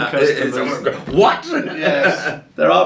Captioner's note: laughing